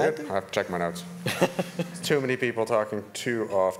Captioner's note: man laughing